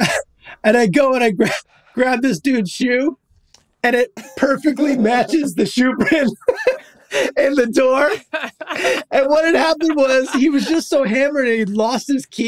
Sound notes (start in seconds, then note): 6.8 all laughing